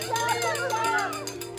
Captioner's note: bell ringing